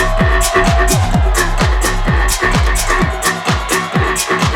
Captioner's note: crowd cheering